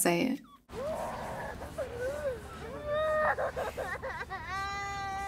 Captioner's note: Elena's crying continues